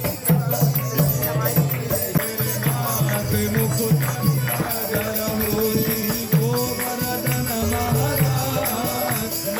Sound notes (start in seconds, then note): 0.1 upbeat music; 2.0 speaking in foreign language